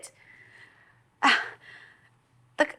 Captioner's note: Ruth scoffs